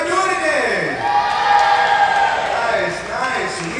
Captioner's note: crowd cheers